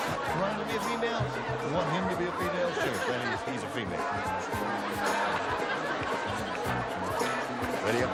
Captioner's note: audience shouts